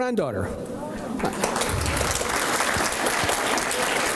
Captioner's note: applause